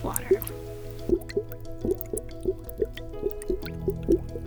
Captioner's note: water bubbling